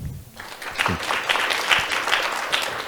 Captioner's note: applause